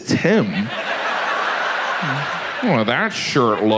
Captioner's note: audience laughs